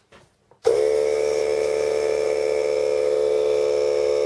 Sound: compressor turn on

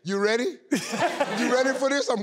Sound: laughing

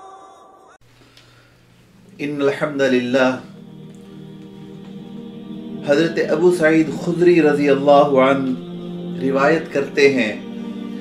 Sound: Arabic

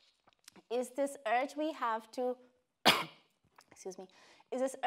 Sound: coughing

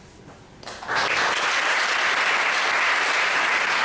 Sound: applauding

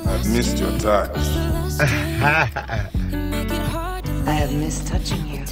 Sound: slow pop music; laughs

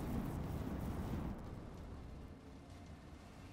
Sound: fire blazing

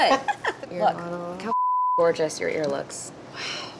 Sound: laughs; beep

